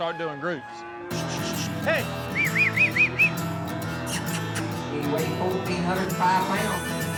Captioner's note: whistling